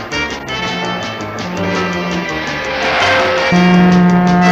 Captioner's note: white Train Driver pulls the Horn & Brakes Hard; Blue Train Driver pulls the Horn & Brakes Hard